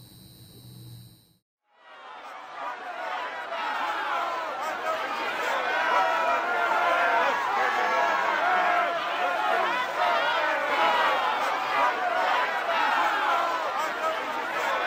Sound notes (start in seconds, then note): 1.8 demonstration shouting